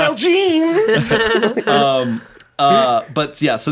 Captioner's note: everyone laughs